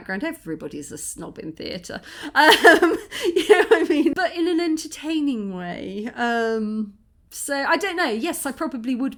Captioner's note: laughing